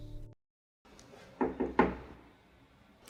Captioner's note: three raps on door